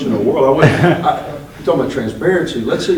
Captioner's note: laughter